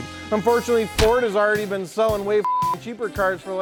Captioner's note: beep